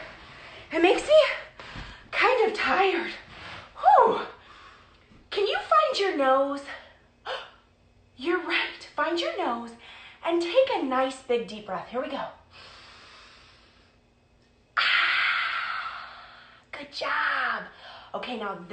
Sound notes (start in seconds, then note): 7.2 gasping; 12.5 breathing deeply; 14.8 exhaling deeply